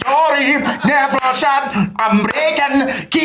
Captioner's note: scottish accent